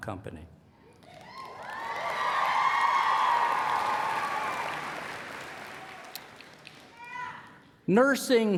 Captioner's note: applause